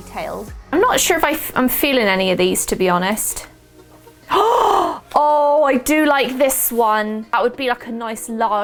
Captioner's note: gasp